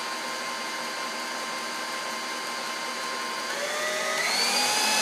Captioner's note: mixer whirring